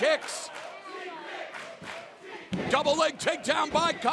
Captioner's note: fans chanting